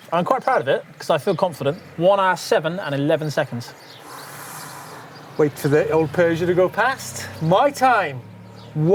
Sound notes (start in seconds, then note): 3.9 gasps